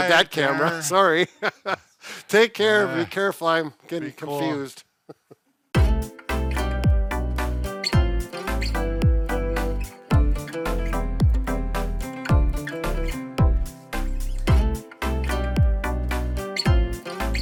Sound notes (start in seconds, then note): 5.0 laughing; 5.9 upbeat music